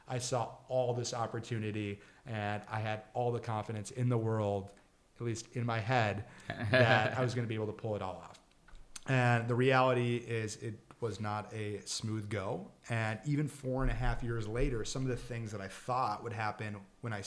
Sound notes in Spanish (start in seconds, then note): 6.4 riendo